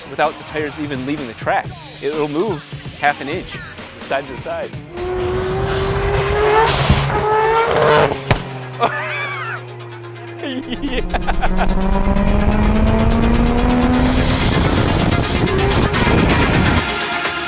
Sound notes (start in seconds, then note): 4.6 car engine revving; 10.2 laughing; 12.1 car engine revving; 14.6 exciting music